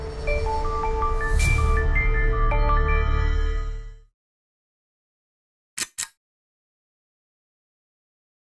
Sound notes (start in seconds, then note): 5.8 click